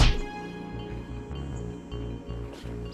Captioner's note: punching sound